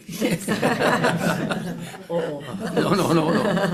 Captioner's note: everyone laughing